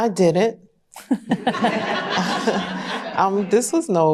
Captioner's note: laughter